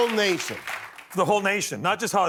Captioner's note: applause